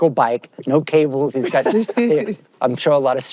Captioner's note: both laugh